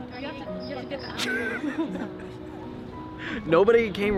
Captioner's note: laughing